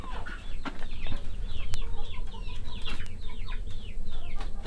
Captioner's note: chicks clucking